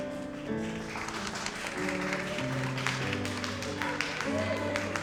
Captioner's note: audience applauds